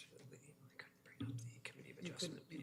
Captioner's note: whispering